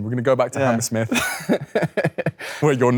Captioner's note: Leo chuckles